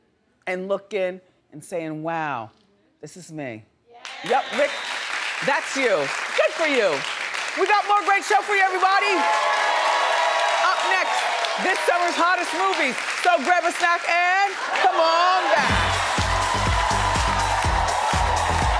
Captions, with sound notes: and looking and saying, "Wow, this is me." Yap, Rick, that's you, good for you. We got more great show for you, everybody. (audience cheering) Up next, this summer's hottest movies. So, grab a snack and come on back. (upbeat music)